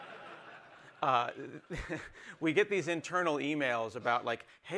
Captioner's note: laughter